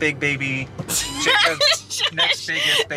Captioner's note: laughs